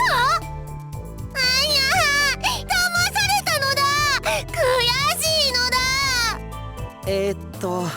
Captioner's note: sob